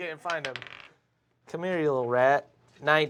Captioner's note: die rolls